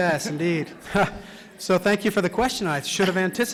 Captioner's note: laughter